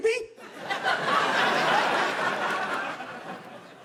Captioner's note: laughter